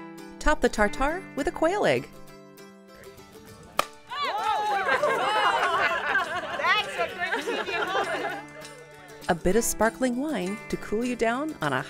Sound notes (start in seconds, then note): 3.8 loud pop; 4.0 people exclaim; 4.4 laughter